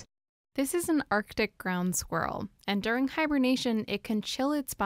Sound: voice-over

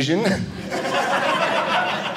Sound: audience laughing

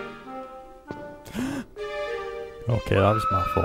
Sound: gasps

